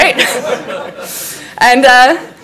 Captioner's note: laughs